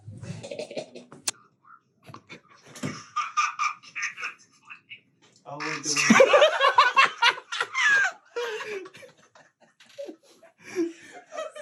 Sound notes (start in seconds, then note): 1.4 cackling; 3.2 voice echoing over camera; 5.6 group laughing